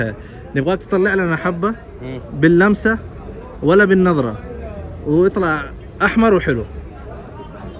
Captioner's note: talking in Arabic